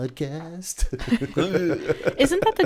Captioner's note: laughter